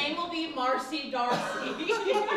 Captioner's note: laughter